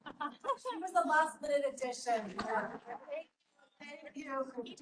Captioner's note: chatter